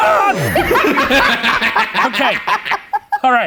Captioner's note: laughing